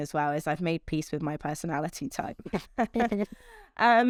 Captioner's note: laughs